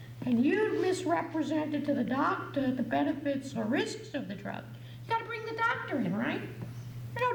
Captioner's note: none